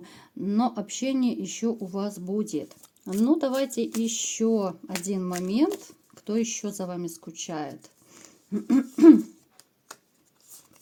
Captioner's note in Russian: откашливается